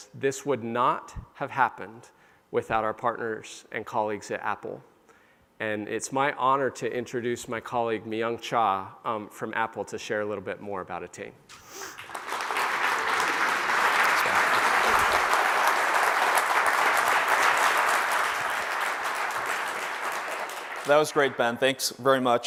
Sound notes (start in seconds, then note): 12.1 applause